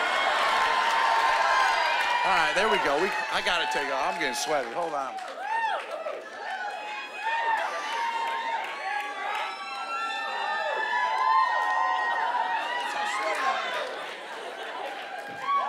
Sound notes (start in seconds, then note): 0.2 cheering; 10.7 scattered cheering